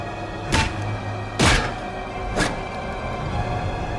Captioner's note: head thuds